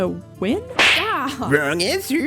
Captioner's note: slap